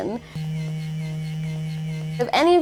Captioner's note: intense vibration